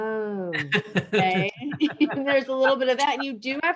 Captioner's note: laugh